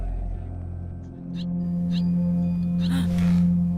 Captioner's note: bird chirping